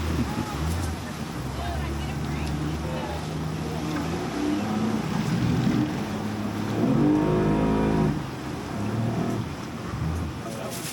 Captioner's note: boat engine roaring